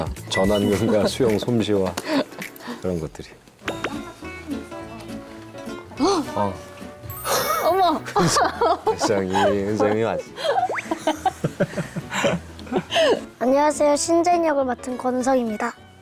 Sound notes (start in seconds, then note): 10.6 chuckles